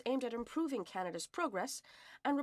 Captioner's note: speaking French